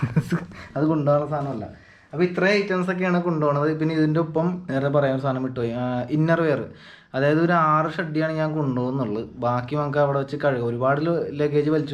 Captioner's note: laughs